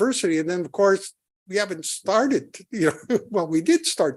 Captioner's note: laughing